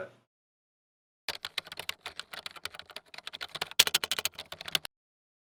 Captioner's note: keyboard clicking